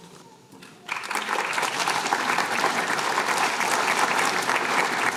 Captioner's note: applause